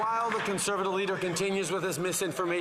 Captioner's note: some Applause